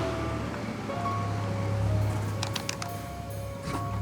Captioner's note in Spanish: Ruido del auto